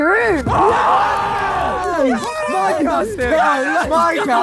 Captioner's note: group cheers